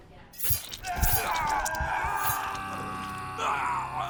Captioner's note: screams